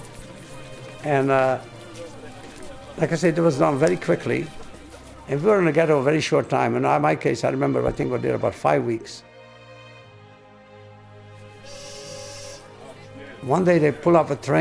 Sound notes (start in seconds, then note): 0.0 people chattering; 11.6 train whistle tooting